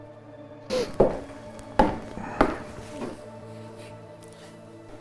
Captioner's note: footsteps approaching